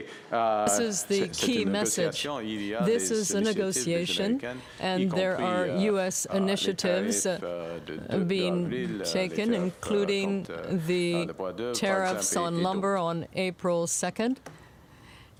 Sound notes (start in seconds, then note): 3.2 speaking French